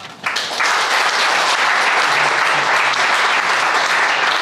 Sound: crowd applauding

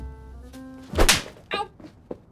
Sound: slap!

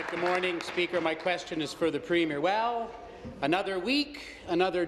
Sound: applause

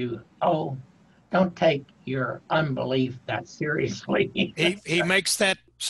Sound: laughing

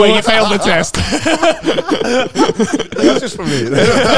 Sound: all laughing

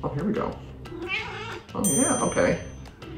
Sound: meowing; dinging

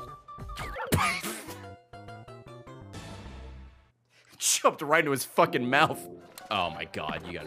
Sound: laughs

